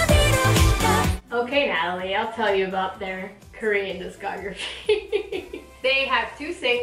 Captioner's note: laughs??